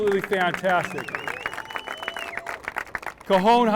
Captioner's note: applause